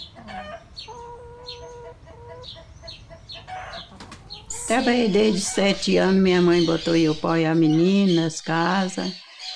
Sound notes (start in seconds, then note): 1.9 chickens cackling